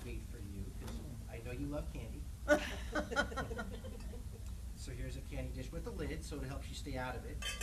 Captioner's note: laughter